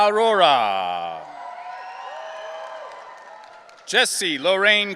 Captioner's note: audience cheering